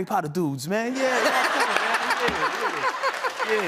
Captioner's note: laughter